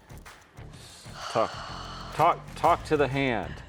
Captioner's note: sighs